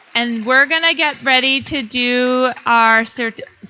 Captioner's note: audience applauding